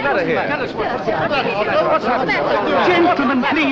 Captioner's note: commotion